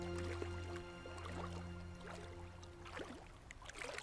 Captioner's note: water splashing